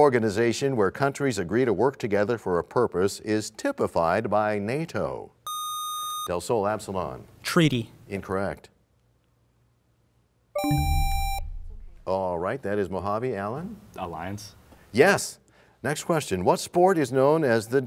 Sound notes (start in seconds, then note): 10.6 bell chimes, time expires; 10.6 buzzer sound